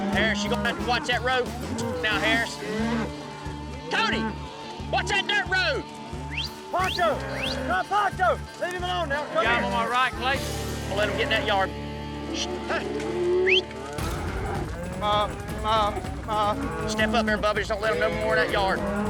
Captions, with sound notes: HARRIS, YOU'RE GONNA HAVE TO WATCH THAT ROAD NOW HARRIS. CODY! WATCH THAT DIRT ROAD! [WHISTLING, YELLING] GOT 'EM ON MY RIGHT CLAYTON. DON'T LET 'EM GET IN THAT YARD. HEY! [WHISTLING] STEP UP EVERYBODY, JUST DON'T LET THEM GET IN THAT YARD.